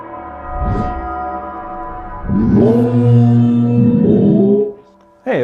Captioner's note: growling and baying of a hound in the distance